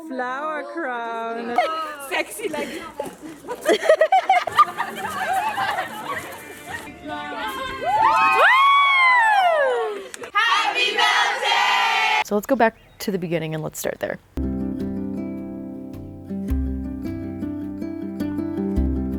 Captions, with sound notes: - Queen of the flower crown. - Oh my god! - Sexy like... (guests laughing) (guests cheering) - Happy Beltane! - So let's go back to the beginning and let's start there. (soft folk guitar music)